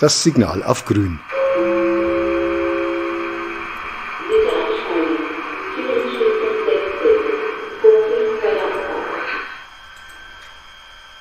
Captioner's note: gong and announcement